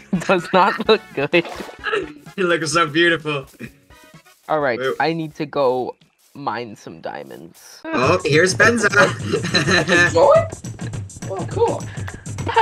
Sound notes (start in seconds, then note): 8.7 laughing